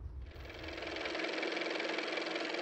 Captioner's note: car motor